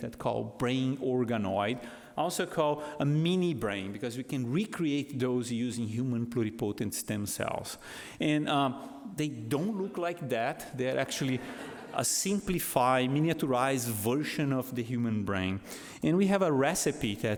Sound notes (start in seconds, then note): 11.2 audience laughs